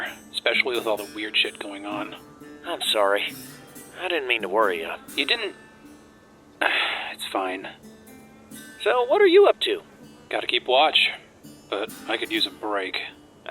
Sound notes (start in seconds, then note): 6.6 sigh